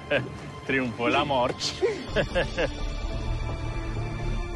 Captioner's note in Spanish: Risas